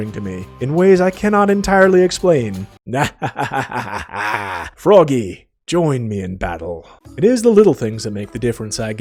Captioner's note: laughs